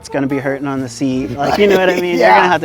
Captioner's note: laughing